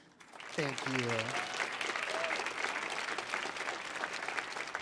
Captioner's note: audience applauding